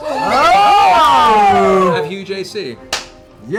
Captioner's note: cheering